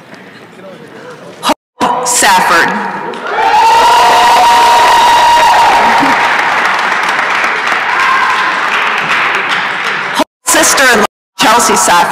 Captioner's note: applause and cheering